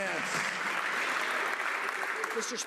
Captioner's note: some Applause